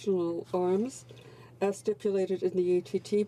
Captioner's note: speaking French